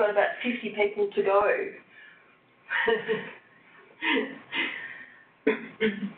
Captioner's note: laughs